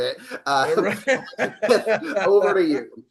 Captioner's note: laughs